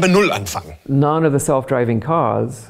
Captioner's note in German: englisch